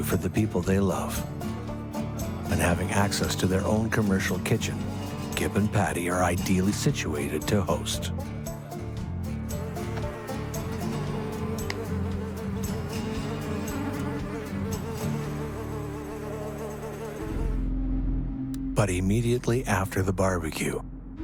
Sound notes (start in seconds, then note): 9.7 flies buzzing; 11.5 upbeat music; 17.4 eerie music